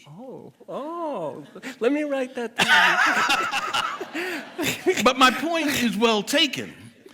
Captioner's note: chuckles from the speakers